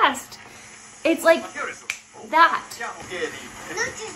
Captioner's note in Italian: schiocco delle dita